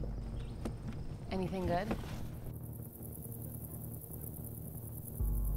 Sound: insects chirping

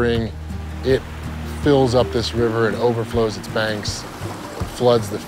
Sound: water surging

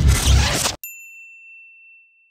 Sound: ping

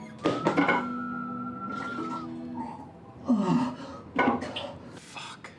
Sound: vomits, groans

